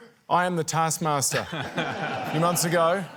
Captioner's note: laughter